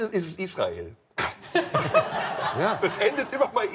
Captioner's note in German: Lachen